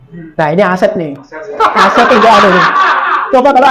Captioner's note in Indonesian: Audiens tertawa